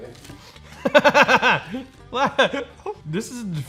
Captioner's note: sarcastic laugh